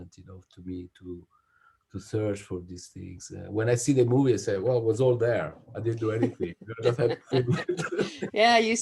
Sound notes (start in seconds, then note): 6.0 laughs